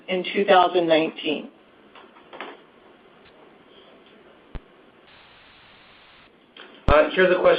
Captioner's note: silence